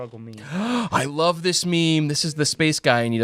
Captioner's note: gasps